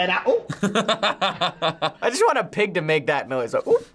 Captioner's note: laughs